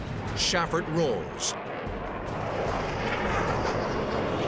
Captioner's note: jet engine noises